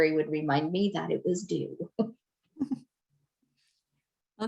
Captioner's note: chuckles